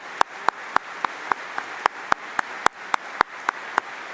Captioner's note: applause